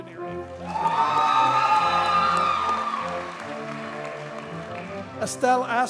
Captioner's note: audience cheers and applauds